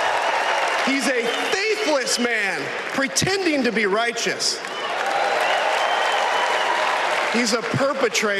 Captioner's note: applause